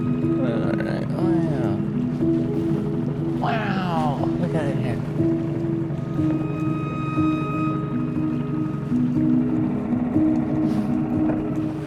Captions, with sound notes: All right. Wow, look at it here. (gentle music) (engine buzzing)